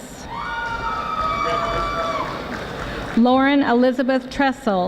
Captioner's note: audience applauding